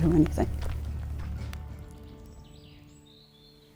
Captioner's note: birds chirping